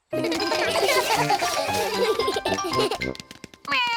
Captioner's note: all giggle